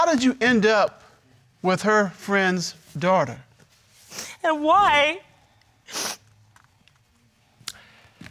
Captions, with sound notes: How did you end up with her friend's daughter? And why? (SNIFFS)